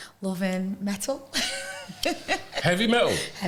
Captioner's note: laughter